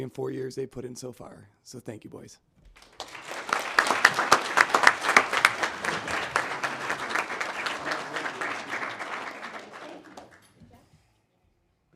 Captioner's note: applause